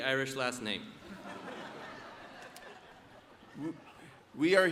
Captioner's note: audience laughs